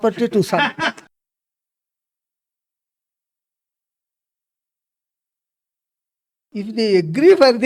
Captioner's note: laughs